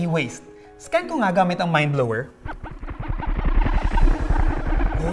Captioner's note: MindBlower noises